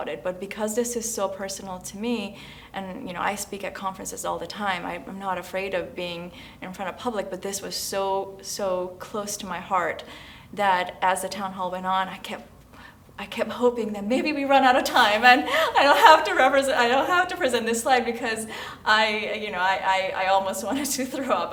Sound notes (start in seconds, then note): 14.9 laugh